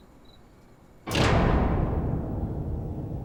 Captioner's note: door slams shut